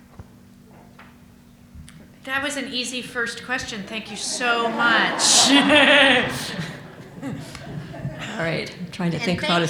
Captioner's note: audience laughs